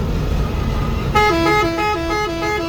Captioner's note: bus horn